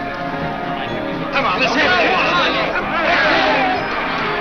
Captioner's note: players yell